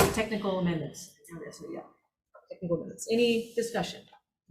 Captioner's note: quietly